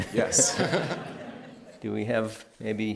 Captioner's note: laughter